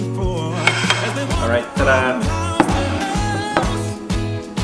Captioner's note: plate rattling